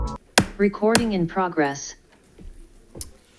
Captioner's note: automated Voice